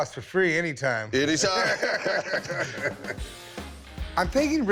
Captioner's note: both laugh